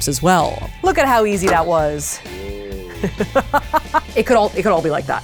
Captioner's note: laughs